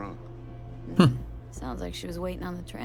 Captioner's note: laughs